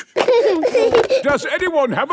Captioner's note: giggling